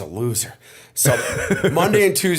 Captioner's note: laughter